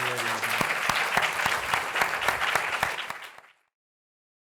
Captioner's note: applause